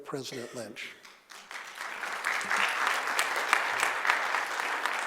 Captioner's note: audience applauding